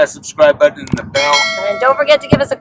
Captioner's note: bell clanging